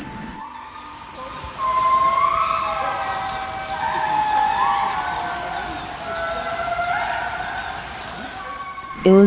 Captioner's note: animal Noises